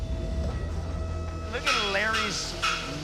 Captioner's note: machine whirring